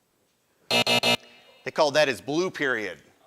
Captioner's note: buzzer